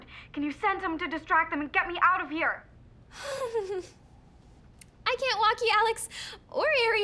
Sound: chuckling nervously

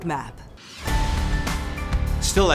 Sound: logo swooshing; gentle lively music

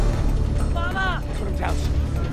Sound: speaking foreign language

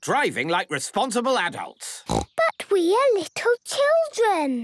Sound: snorting

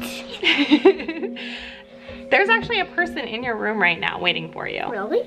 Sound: laughs

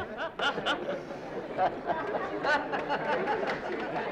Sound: laughing

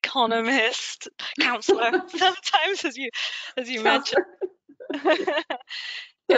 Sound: chuckles

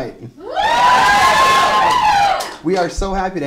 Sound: cheers and Applause

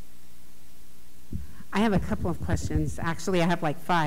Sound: tender Voice

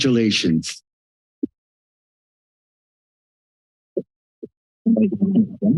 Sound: silence

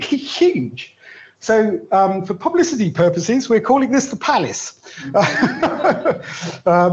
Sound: laughs

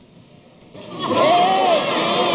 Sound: audience laughs

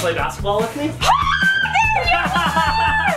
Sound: screams

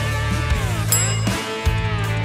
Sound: timer clock striking

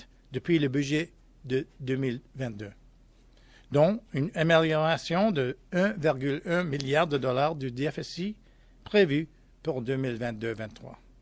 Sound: speaking french

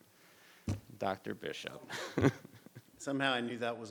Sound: laughs

